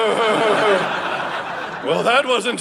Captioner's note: audience laughing